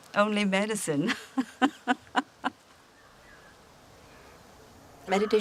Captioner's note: chuckling